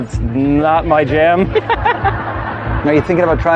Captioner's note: laughter